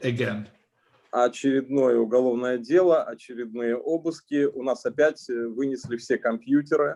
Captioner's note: speaking Russian language